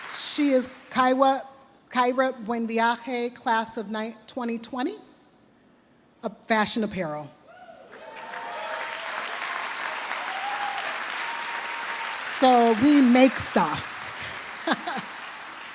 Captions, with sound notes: She is Kyra Buenviaje, class of 2020, fashion apparel. (trustees and audience applaud) So we make stuff. (chuckles)